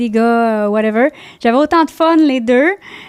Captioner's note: in french